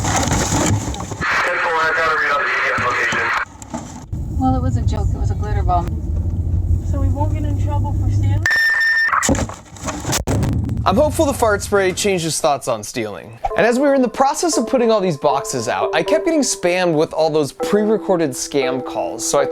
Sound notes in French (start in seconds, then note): 0.0 le sac poubelle se froisse; 1.7 Voix sur le scanner; 7.9 cris du scanner